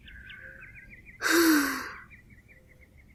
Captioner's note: sigh